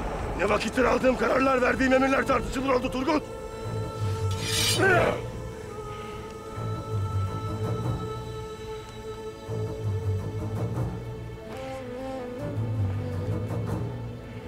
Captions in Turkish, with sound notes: Ne vakittir aldığım kararlar, verdiğim emirler tartışılır oldu Turgut? (Kılıç sesi) -Ah. (Müzik - Gerilim)